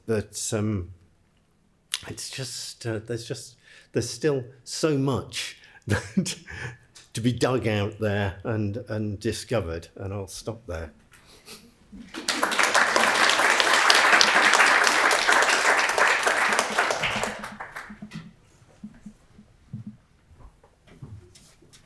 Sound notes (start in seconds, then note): 12.0 audience applauds